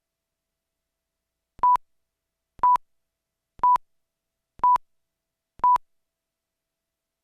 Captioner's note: beeping